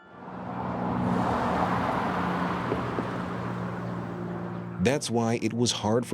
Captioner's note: car engine humming